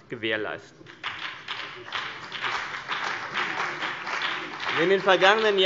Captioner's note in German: Beifall CDU und BÜNDNIS 90/DIE GRÜNEN